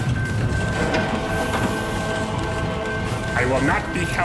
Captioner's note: levers clank; machinery engages